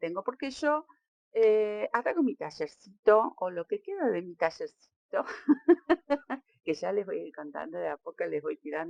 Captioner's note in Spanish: risas